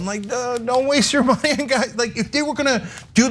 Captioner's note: laugh